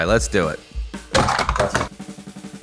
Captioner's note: bonk!